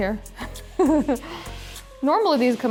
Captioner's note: giggling